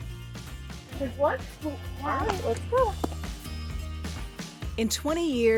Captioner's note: indistinct chatter